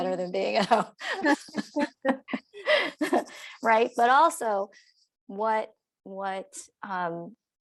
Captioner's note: laughter